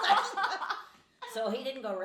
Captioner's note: laughing